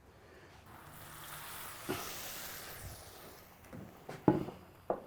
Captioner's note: sizzling